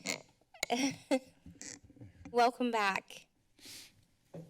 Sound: laughter

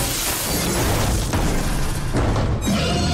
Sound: stomping; screeching

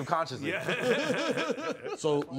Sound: laughter

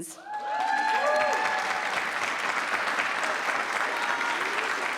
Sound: attendees cheering

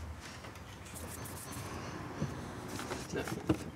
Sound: soft shuffling

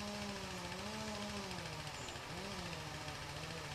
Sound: sound of heavy machinery

